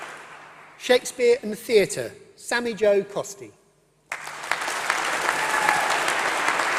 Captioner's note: applause